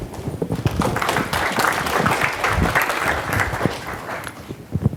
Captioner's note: audience applauding